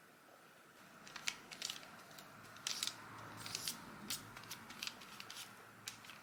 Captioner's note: paper crunches as glue is brushed on